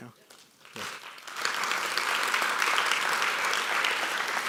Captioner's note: audience applauds